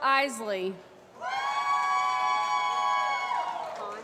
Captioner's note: applause